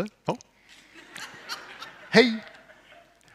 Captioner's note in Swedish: publiken skrattar